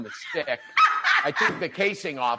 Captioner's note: laughs